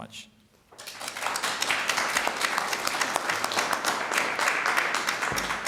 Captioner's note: applause